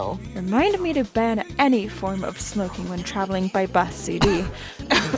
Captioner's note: cough